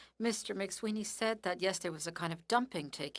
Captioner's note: speaking French